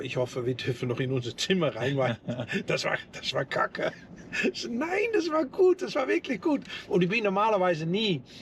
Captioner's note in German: gelächter